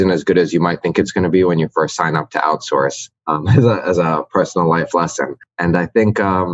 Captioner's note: laughs